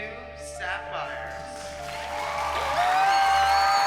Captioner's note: cheering